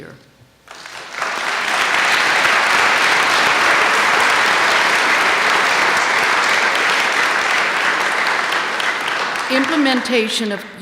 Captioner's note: applause